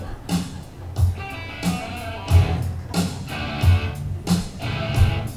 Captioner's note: laughter